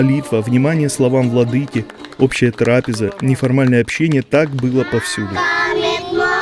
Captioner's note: applause